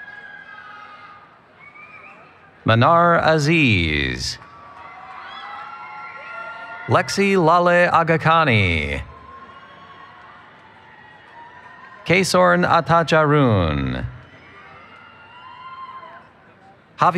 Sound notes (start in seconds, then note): 0.0 cheering; 5.1 cheering